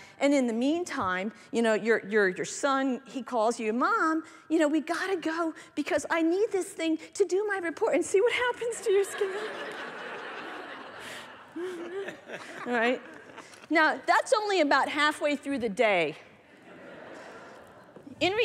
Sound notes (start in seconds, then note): 8.8 laughter